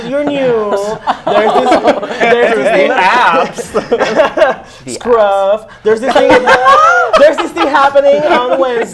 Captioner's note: laughs